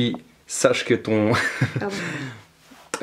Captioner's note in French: rires